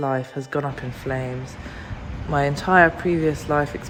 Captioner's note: city sound